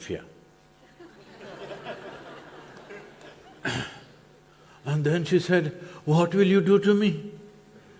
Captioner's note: few laugh